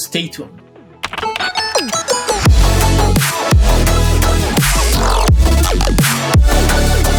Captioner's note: upbeat music; keyboard keys type